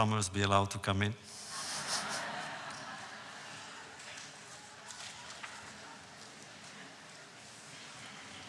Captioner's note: audience laughs